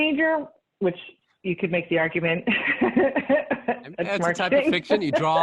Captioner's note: laughs